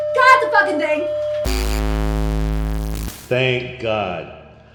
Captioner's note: static buzzing